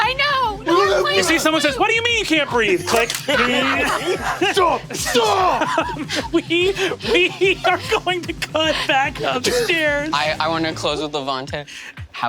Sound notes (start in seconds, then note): 2.9 camera shutter snaps